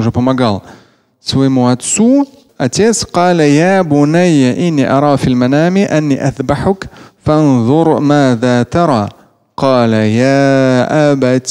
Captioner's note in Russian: говорит на арабском